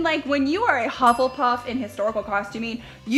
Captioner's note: dings